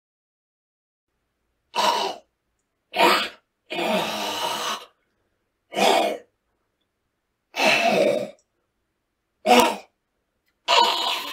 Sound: monster noises

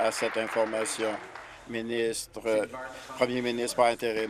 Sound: applause

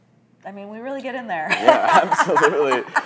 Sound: laughs

